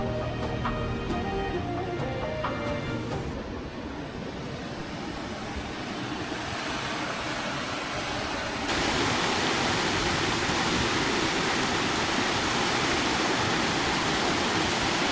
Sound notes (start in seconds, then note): 2.2 water rushing